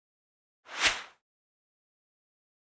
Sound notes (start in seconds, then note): 0.7 whooshing